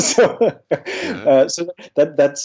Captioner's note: laughs